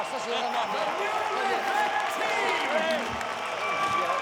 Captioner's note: people cheering